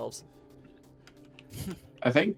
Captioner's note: sensible chuckle